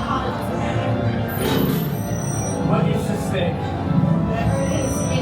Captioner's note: alarm continues throughout